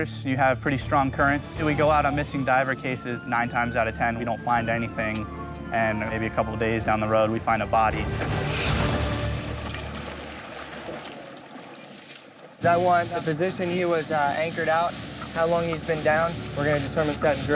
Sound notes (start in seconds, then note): 10.3 ocean waves splashing